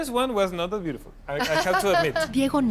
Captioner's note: laughs